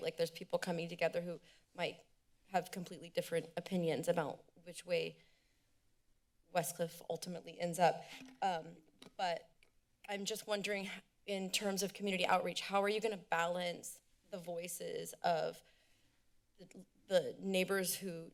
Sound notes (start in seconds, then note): 8.0 microphone rustling